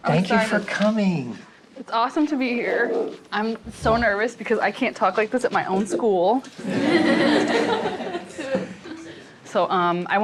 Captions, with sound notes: Thank you for coming. It's awesome to be here. I'm so nervous because I can't talk like this at my own school. [LAUGHTER]